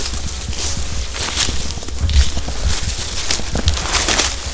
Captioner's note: leaves crunching